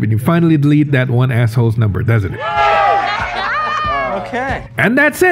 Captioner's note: all cheering\